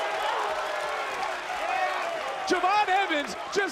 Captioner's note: audience cheering